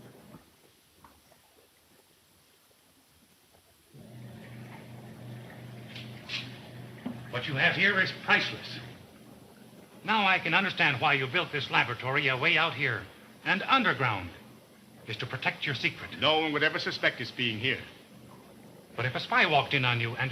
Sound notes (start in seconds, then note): 4.0 motor rumbling